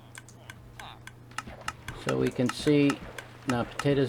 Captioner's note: louder ticking